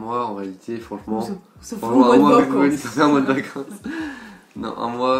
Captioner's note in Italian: ridere